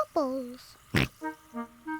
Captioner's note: oinks; giggles